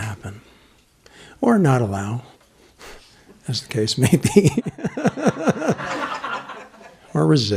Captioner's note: laughter